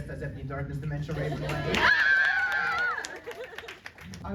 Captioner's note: crowd cheers